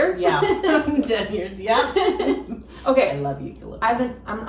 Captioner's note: both laughing